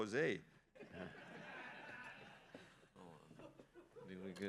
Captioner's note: laughter